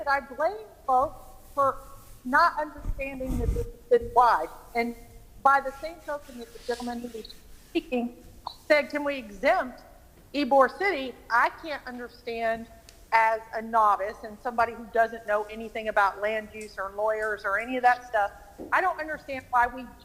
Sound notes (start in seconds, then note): 13.6 ~distortion~